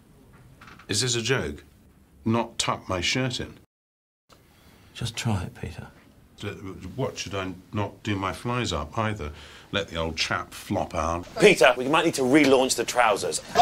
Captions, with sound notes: Is this a joke? Not tuck my shirt in? Just try it Peter [Stammers] What should I not do my flies up either? Let the old chap flop out? Peter. We might need to relaunch the trousers